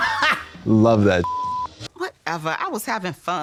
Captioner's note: beep